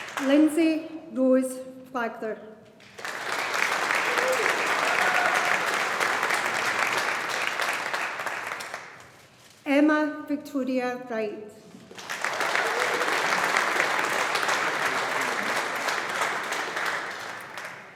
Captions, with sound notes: Lindsey Rose Flagler. (AUDIENCE APPLAUDING) Emma Victoria Wright. (AUDIENCE APPLAUDING)